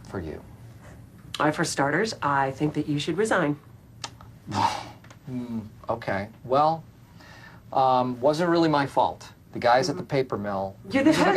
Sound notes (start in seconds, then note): 4.5 gasping